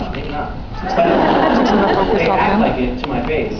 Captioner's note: laughs